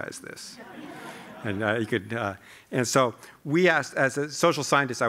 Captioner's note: laughter